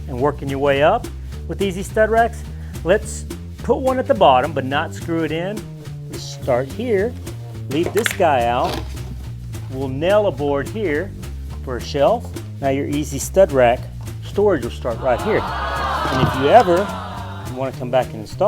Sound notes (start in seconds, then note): 14.8 canned audience sounding amazed